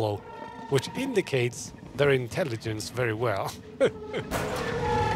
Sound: laughs

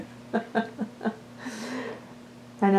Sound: laughter

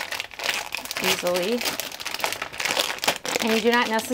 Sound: bag rustling

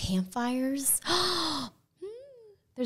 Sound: gasping

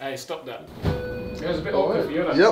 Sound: elevator ding

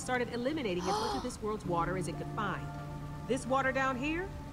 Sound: Sabrina gasps

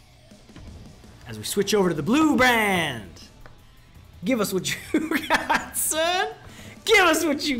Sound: laugh

